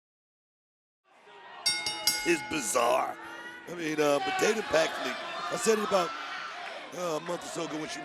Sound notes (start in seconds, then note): 1.6 bell rings